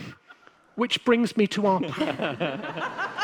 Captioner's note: applause and a laughter